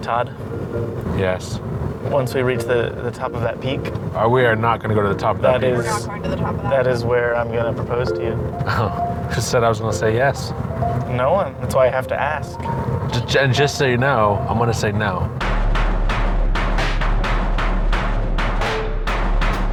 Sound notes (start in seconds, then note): 8.6 chuckles